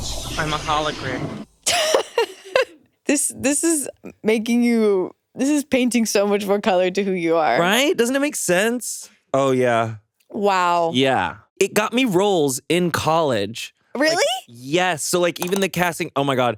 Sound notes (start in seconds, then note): 1.6 chuckles